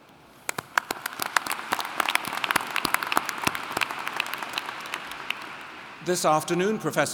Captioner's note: applauding